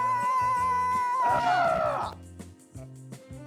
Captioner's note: cheering; cheering..!?